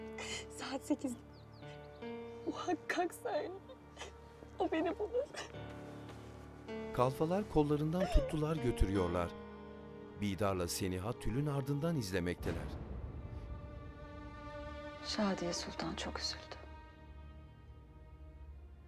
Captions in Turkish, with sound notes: Saat sekizde. Muhakkak söyle. O beni bulur. (Ağlama sesi) (Müzik - Gerilim) Şadiye Sultan çok üzüldü.